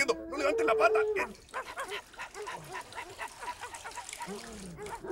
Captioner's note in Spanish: Sonido de Perro orinando